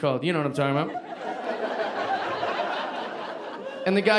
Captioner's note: audience laughing